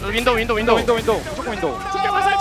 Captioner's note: BuZz